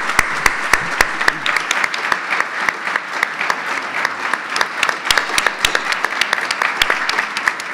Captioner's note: audience applause